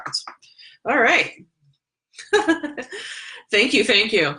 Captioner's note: laughs